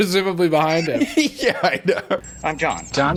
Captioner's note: laughing